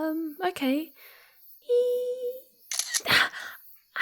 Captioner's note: she smiles and makes a 'heeee' noise as the camera clicks and the light flashes